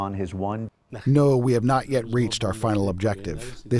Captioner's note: through translator